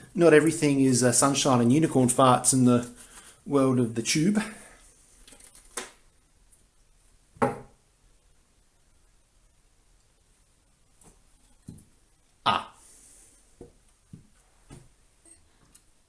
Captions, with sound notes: not everything is sunshine and unicorn farts in the world of YouTube... *snapping plastic sound* Ah.